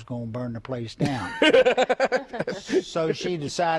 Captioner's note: laughter